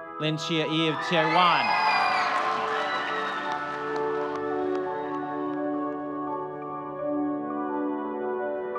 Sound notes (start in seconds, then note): 0.9 audience cheering and clapping; 6.1 light music